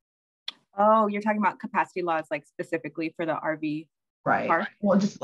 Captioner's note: clicks tongue